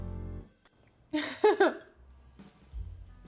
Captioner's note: laughing